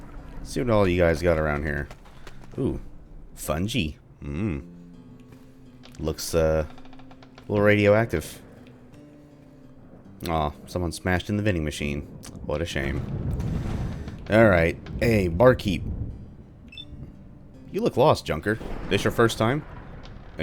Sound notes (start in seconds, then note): 12.2 thunder; 18.5 thunder